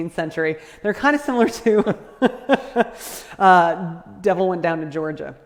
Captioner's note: laughs